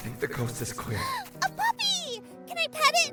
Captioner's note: happy gasp